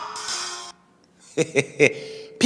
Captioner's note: laughing